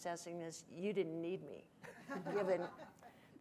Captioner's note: audience chuckling